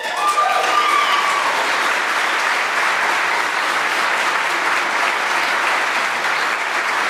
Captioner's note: applause